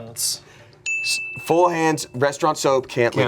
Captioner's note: bell dings